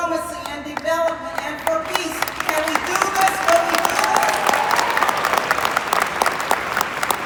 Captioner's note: cheers